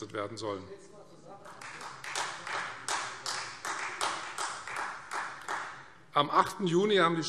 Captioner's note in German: Beifall Freie Demokraten